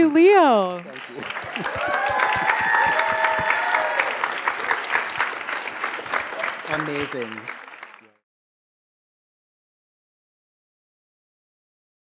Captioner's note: applause